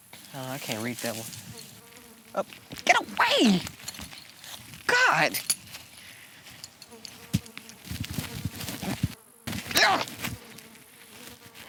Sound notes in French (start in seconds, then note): 1.0 bourdonnement de mouche; 8.4 Bourdonnement insistant; 9.7 Exaspéré